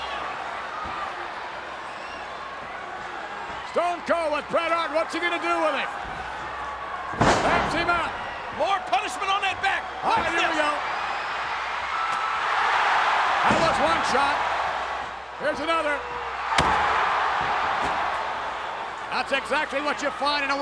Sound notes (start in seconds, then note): 12.5 audience cheering; 13.4 chair thuds; 16.5 chair thuds; 16.6 audience cheering; 18.3 chair thuds